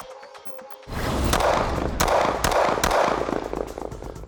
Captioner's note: gun fires